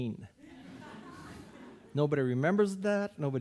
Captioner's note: audience laughing